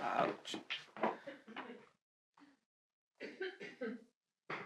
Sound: Mickey repeatedly coughs

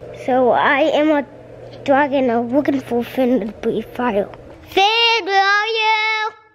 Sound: toddler talk

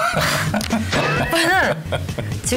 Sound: laughing hysterically

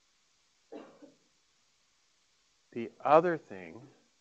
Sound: coughing

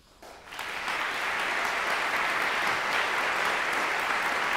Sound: applause

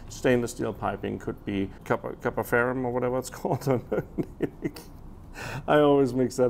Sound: laughing

